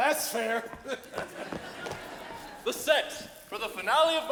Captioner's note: audience chuckles